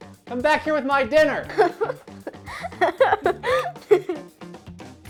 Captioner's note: Penguin Sous Chef Giggling